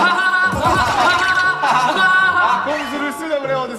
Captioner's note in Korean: 하하하하